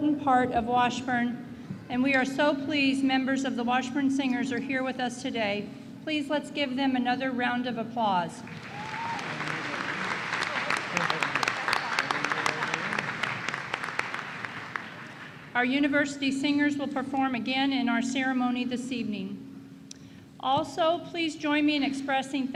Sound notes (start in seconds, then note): 11.5 applause